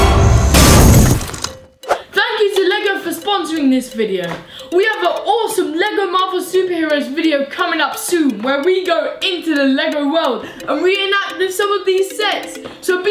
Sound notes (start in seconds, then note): 0.6 smashing